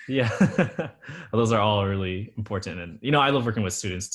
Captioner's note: laughs